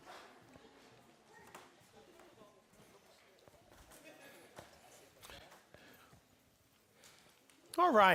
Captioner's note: general chatter